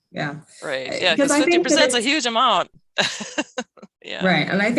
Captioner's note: laughs